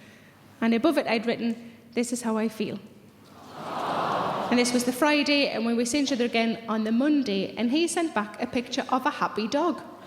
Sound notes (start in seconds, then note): 3.3 audience sympathising